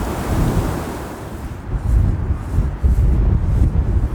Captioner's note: wind blowing